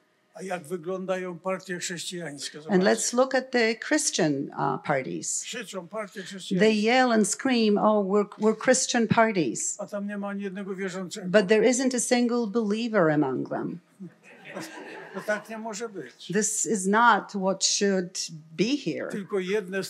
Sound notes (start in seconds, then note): 0.1 foreign language; 4.8 foreign language; 9.8 foreign language; 14.2 laughter; 14.8 foreign language; 19.7 foreign language